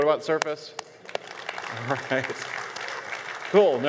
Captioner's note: audience applause